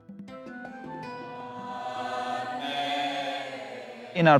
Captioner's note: chanting